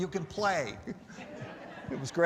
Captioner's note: laughter